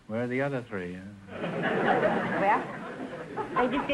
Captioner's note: audience laughter